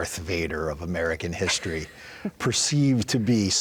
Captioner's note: interviewer laughs